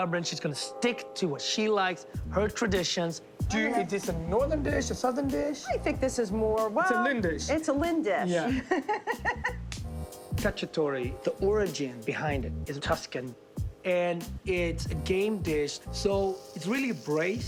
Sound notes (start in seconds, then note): 8.3 laughs